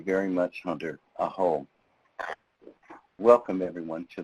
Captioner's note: speaking in foreign language